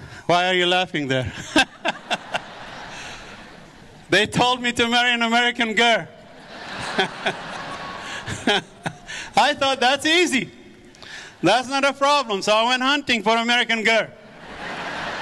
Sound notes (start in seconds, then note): 1.3 laughs; 6.3 audience laughs